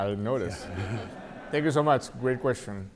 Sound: audience laughing

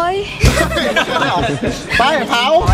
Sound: laughs

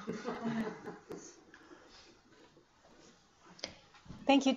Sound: laughing

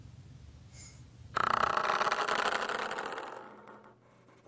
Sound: sounds of icons dropping. Like & share

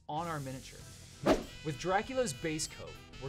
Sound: swoosh

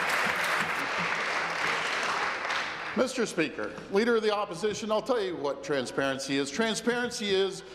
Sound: applause

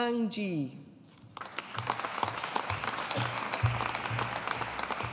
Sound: audience applauding

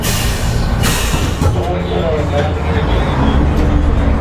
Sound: machinery sputters

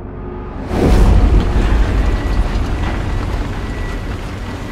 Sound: machinery noises

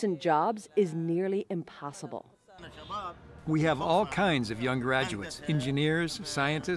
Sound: through translator

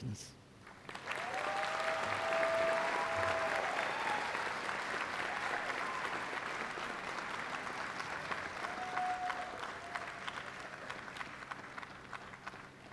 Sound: applause

